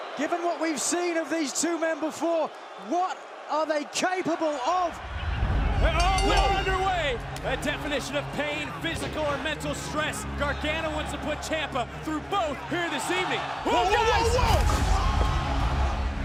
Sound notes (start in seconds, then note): 0.0 cheers and applause; 5.9 bell ringing